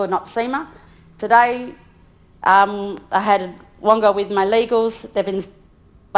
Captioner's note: speaks in foreign language